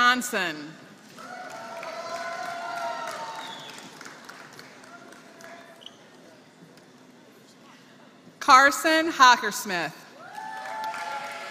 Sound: applause; applause

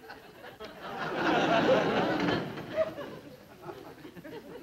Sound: audience laughs

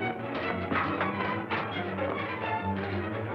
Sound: door opens

